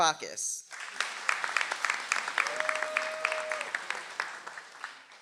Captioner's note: audience applauds